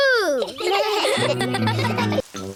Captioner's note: all laugh